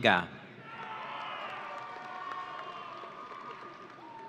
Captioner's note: audience cheering